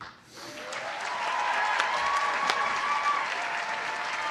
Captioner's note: applause